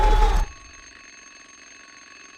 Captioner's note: clock ringing